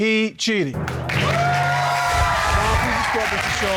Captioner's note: cheering